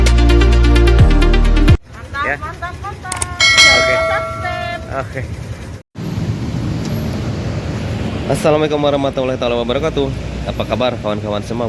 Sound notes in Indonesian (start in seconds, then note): 3.3 lonceng